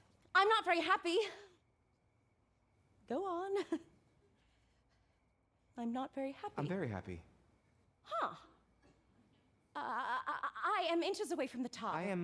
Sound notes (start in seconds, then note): 3.1 chuckles